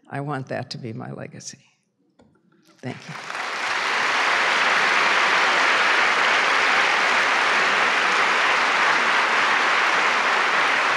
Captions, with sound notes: I want that to be my legacy. Thank you. (applause)